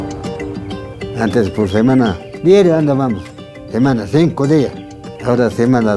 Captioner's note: speaks Spanish